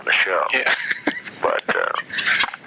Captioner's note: laughter